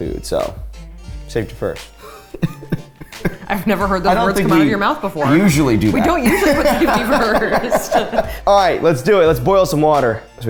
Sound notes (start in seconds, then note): 2.0 chuckles; 7.5 laughs